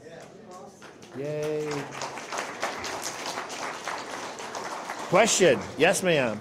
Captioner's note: applause